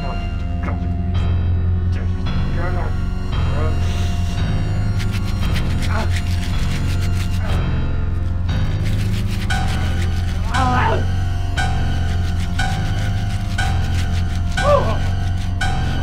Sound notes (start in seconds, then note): 5.5 scratching; 9.2 scratching